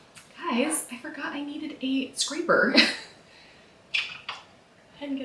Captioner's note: laughs